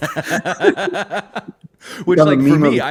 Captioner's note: laughter